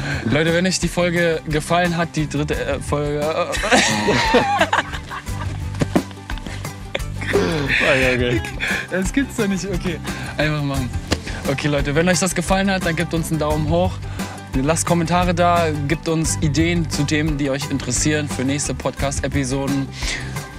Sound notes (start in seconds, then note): 3.4 german laughter